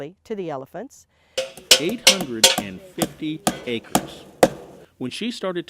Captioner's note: hammer banging